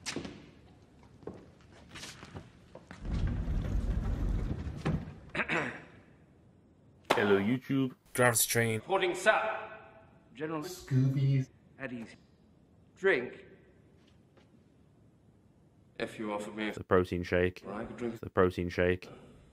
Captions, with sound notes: [clears throat] Ello Yuchub. Gravity Training reporting sir! General Scooby. At ease. Drink? If you offer me a protein shake, I would drink a protein shake.